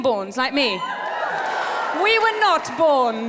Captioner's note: cheers from audience